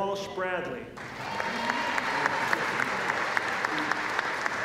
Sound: applause

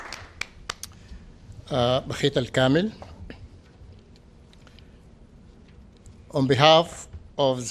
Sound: applause

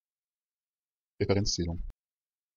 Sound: fast Pronunciation

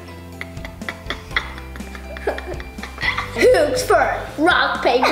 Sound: laughing

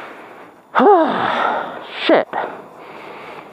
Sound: sigh

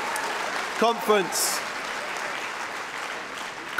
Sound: cheering & Applause

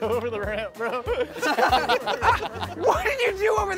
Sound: contestants laughing

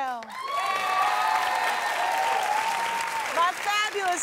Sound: applause

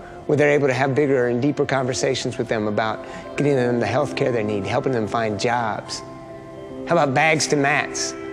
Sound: none

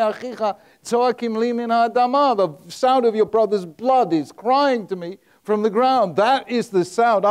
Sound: speaking in Hebrew

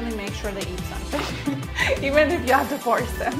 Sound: both laugh

